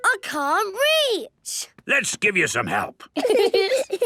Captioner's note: giggling